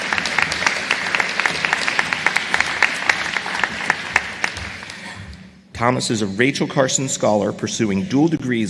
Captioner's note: applause